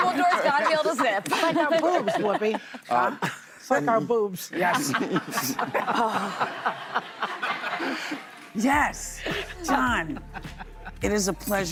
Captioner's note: laughter